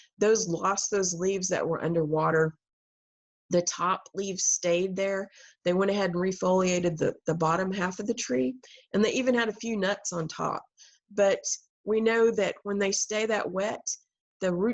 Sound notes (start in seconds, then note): none